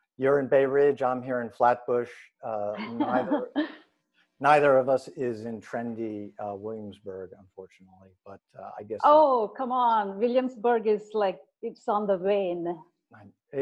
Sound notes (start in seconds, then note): 2.5 chuckles